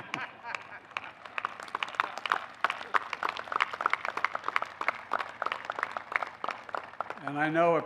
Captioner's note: laughter and applause